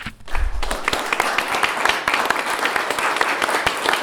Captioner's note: applause